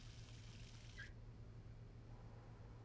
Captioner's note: water stops